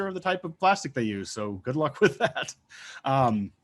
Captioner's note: laughing